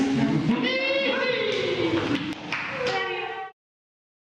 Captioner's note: cheering